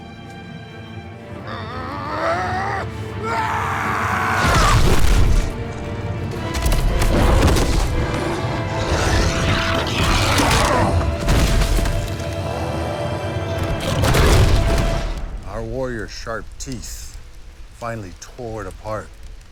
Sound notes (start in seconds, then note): 1.4 grunting; 7.8 growling